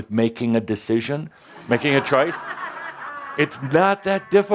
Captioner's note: laughter